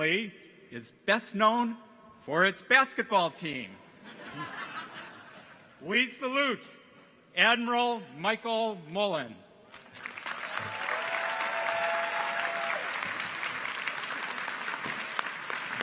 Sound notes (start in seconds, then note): 4.0 audience chuckles; 9.7 audience applauds; 10.0 people cheer